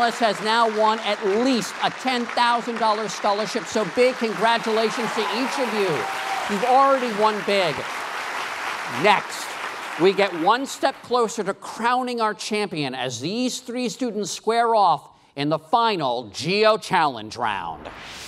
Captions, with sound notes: Each of these three finalist has now won at least a $10,000 scholarship so big congratulations to each of you. You've already won big. (applause) Next we get one step closer to crowning our champion as these three students square off in the final Geo Challenge Round.